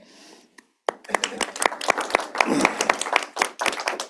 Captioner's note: applause